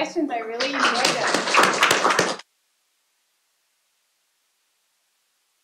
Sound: applause

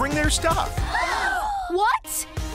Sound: gasping

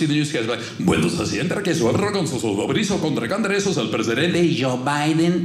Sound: speaking Spanish

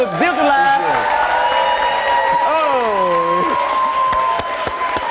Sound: audience cheering

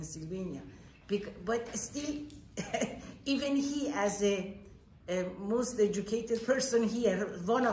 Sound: chuckles

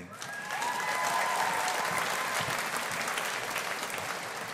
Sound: audience applauding

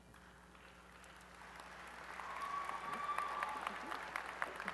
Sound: applause

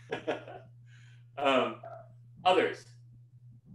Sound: laughs

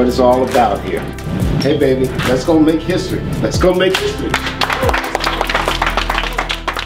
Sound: clapping

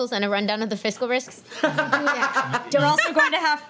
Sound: laughs

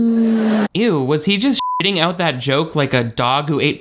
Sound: beep

